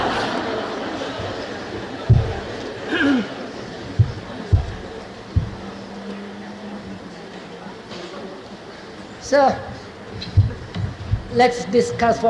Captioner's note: laughter